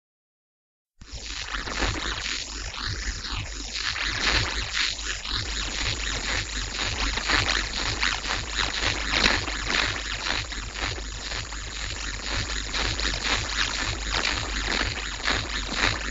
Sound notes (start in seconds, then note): 1.1 static sound